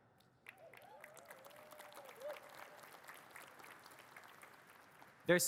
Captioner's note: audience cheers and claps